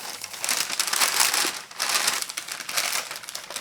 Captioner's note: crumpling